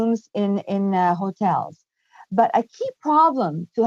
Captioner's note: speaking french